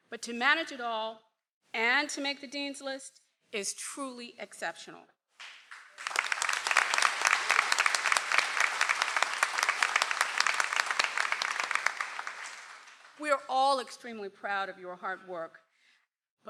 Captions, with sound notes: but to manage it all and to make the Dean's List is truly exceptional. (audience applauds) - We are all extremely proud of your hard work,